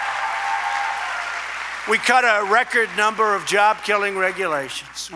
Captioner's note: applause